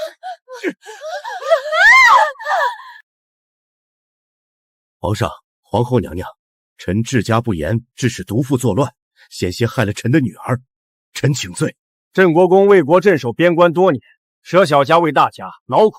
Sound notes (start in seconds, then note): 2.4 gasp!